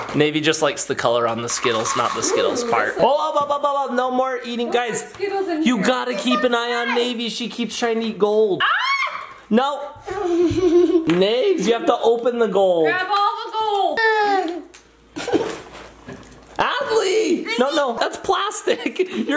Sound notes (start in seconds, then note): 8.6 shrieks